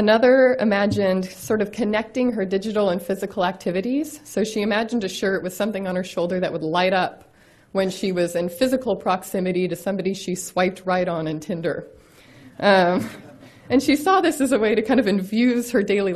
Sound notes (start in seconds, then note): 13.1 audience laughs; 14.9 laughs